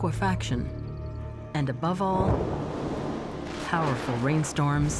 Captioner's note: thunder rumbles